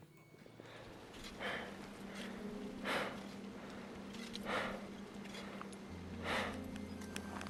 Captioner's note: heavy breathing